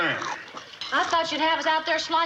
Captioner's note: Jethro crunching loudly